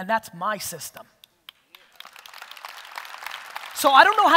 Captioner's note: audience applause